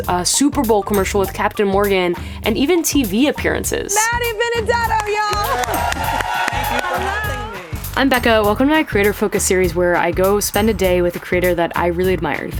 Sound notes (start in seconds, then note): 4.9 audience cheers